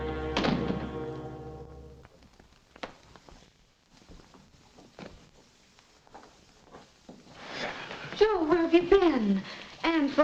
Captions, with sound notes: (door thuds shut) - Joe, where have you been?